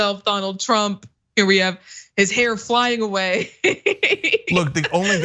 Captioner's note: laugh